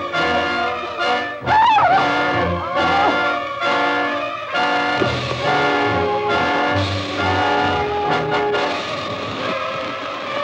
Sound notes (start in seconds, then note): 1.4 screams